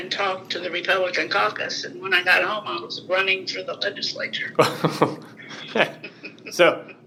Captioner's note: both laughing